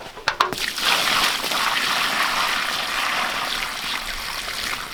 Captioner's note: water splashing